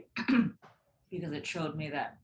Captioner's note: throat clears